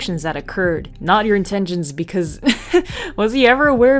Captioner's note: chuckle